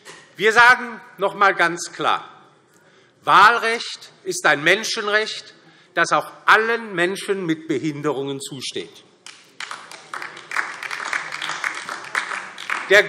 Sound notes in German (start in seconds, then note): 9.2 Beifall DIE LINKE